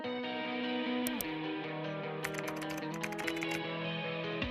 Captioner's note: bright music; mouse clicks; keyboard taps; mouse clicks